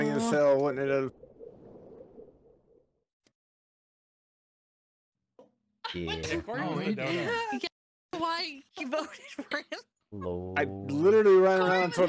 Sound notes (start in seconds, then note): 1.1 wind blowing; 5.0 group chattering